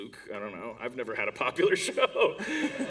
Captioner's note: laughter